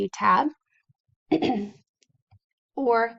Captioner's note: clears voice